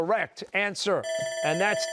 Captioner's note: bell ringing